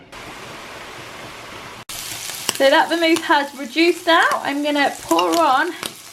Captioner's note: sizzle